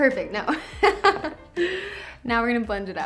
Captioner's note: laughs